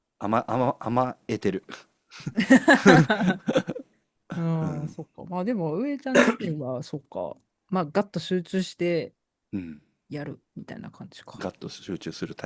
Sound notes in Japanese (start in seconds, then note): 2.2 笑い; 6.1 咳払い